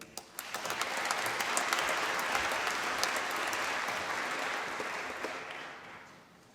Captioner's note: applause